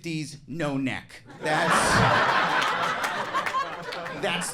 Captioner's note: crowd laughing